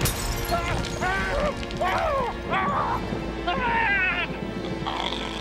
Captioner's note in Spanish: tintineo de vidrio; Zadrim gritando